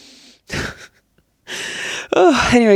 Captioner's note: chuckles